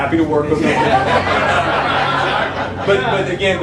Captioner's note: laughter